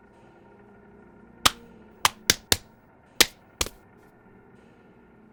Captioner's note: hand slapping